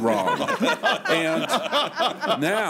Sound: laughter

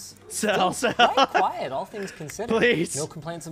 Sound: laughter

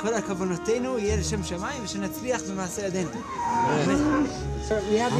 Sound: speaking in Hebrew

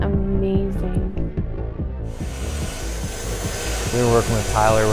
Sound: fast-paced music; tool buzzing

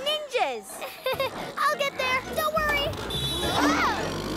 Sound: nervous chuckle; honking

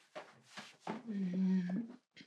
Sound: she grunts

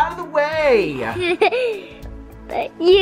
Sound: laughs

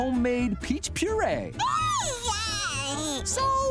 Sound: squealing

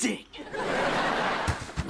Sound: laughing

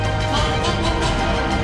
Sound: chicken clucking noises

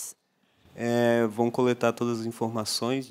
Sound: non-english speech

